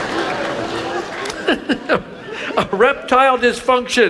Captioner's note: laughs